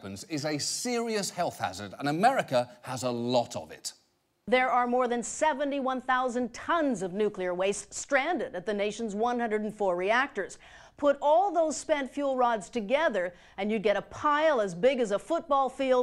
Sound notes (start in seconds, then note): none